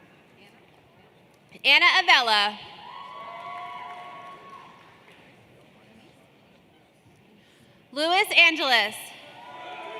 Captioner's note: applause